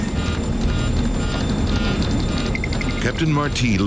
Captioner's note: warning signal beeping